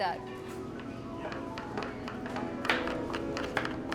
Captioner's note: knives chopping